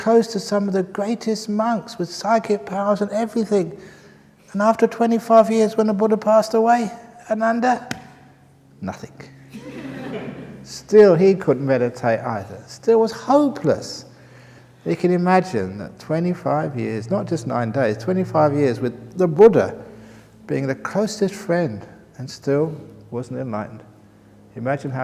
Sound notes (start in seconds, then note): 7.8 snaps his fingers; 9.5 laughter